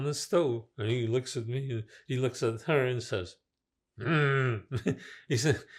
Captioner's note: throat-sound